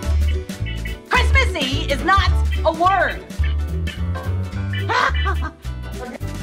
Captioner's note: laughs